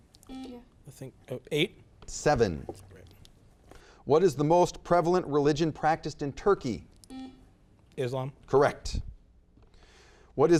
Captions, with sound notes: (buzzer beeps) - Eight. - Seven. What is the most prevalent religion practiced in Turkey? (buzzer beeps) - Islam. - Correct.